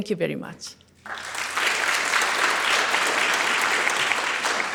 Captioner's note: audience applauds